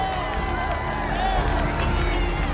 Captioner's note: sounds of cheering